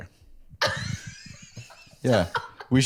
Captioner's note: laughs